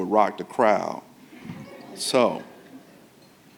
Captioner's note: audience laughing